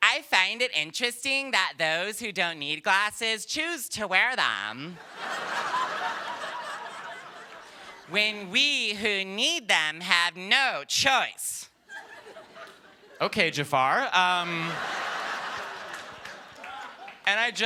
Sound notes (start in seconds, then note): 8.2 laughter; 17.4 laughter